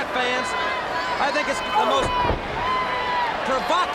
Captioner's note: blows thudding